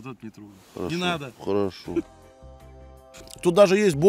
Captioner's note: chuckles